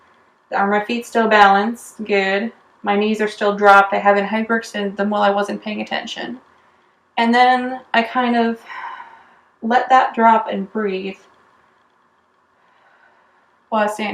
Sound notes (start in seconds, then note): 12.5 breathes